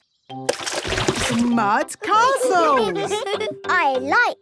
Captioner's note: all giggling